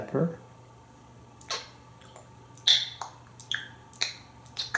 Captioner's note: eating sounds